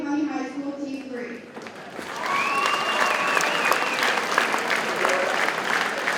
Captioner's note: audience cheers and applauds